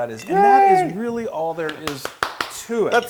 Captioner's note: applause